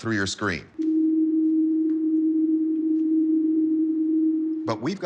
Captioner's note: humming